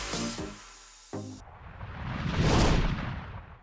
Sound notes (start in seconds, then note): 1.4 logo whooshes